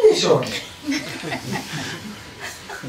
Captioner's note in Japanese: 笑い声